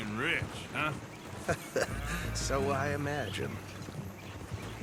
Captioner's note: laughs